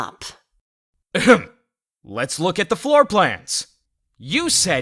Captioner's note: ahem